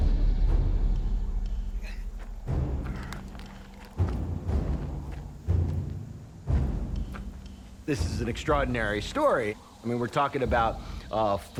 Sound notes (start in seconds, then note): 1.1 crickets chirping; 3.0 panting; 5.5 intense music